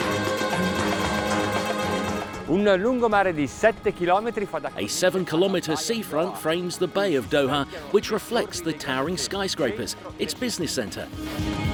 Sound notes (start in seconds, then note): 2.6 speaks in foreign language